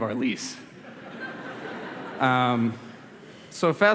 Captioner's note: laughter